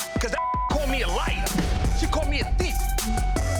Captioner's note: beep